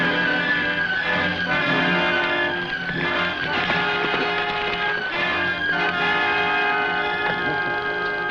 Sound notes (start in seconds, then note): 3.5 horse hooves pattering